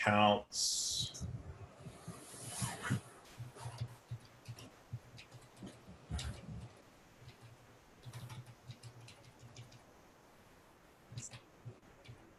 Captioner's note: typing On Screen